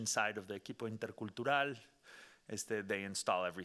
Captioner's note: speaking Spanish